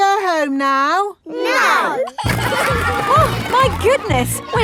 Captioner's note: giggling